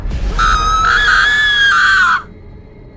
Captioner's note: horror scream